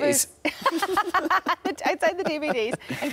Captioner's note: both laughs